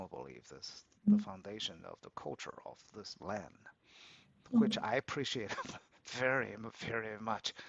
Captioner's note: laughs